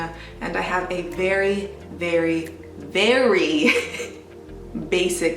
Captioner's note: chuckles